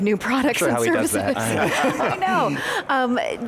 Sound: all laugh

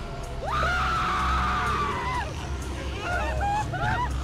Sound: Buick screaming

